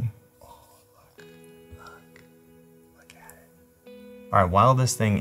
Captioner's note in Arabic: يهمس